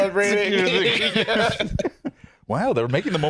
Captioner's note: both laugh